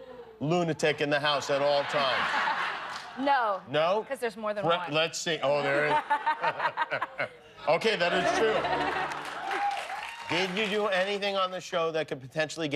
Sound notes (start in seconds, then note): 7.6 laughter